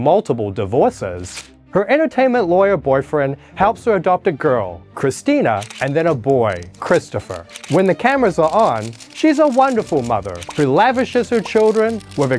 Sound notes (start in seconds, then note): 1.2 page turning; 5.6 camera flashing